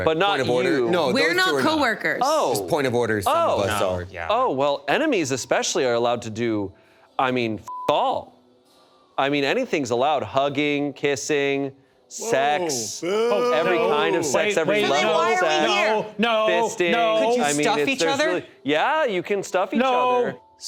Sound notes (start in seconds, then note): 7.7 beep